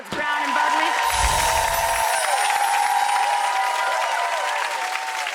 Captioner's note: audience cheering